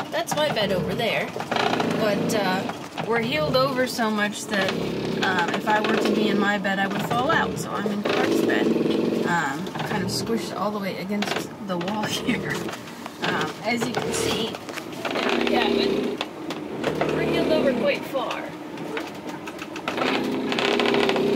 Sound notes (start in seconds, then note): 12.0 laughs